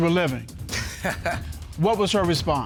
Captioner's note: chuckles